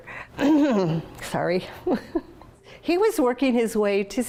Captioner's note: clears throat